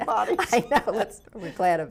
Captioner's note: laughs